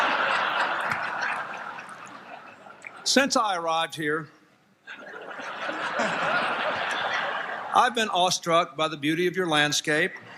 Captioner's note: laughter